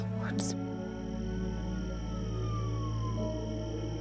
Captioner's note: police sirens